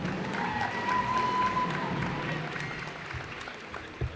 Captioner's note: cheers and applause